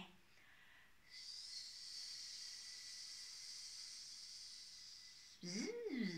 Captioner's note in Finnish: sihinää